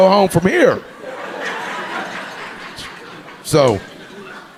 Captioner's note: audience laughing